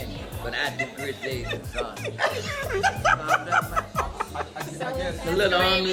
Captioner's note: laughing